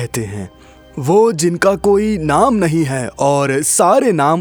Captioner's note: speaking in foreign language